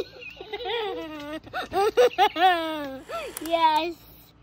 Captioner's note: laughing